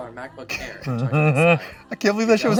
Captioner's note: laughing